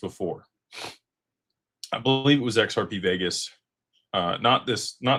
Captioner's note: snorts